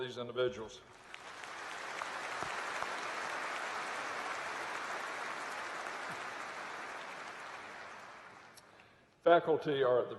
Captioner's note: applause